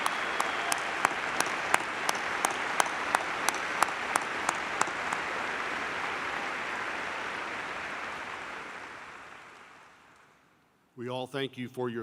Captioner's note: applause